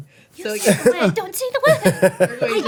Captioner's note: laughing